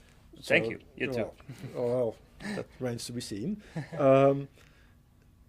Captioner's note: laugh